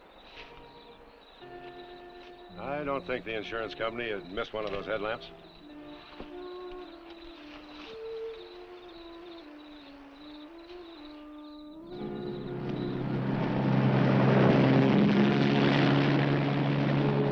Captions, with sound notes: I don't think the insurance company would miss one of those headlamps. (engine rumbling)